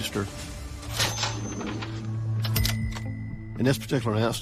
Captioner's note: register r dings